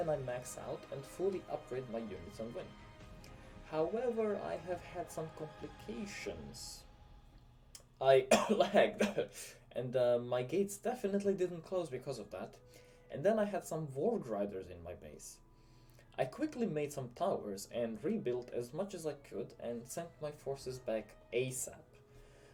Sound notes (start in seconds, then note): 8.2 cough